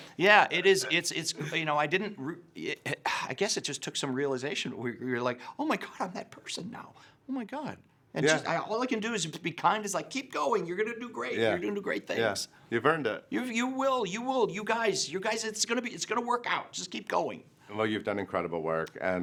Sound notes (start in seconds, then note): 2.9 sighs